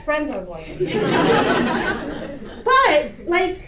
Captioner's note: audience laughter